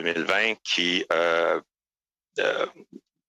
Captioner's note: speaking French